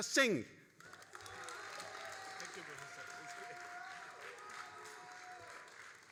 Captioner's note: all applauding and cheering